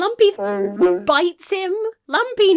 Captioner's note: Wookiee howls